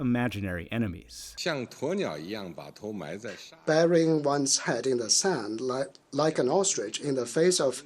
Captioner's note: through translator